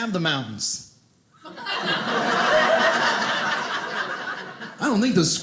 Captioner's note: audience laughing